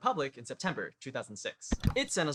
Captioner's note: click